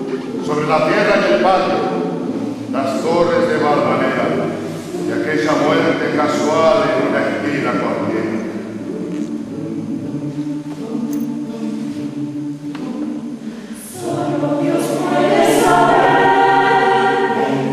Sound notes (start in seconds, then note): 8.8 hum, closed mouth